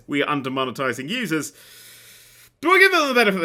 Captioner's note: inhales deeply